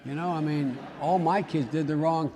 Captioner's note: laughter